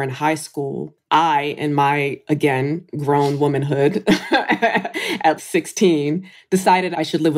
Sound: laughs

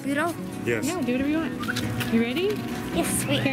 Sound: voiceover

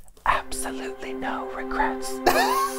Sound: whispers; laughs

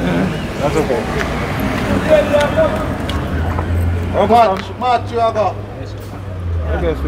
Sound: background conversations

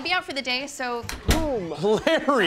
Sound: door clacks open; laughs

